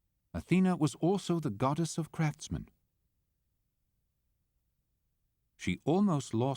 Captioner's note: voiceover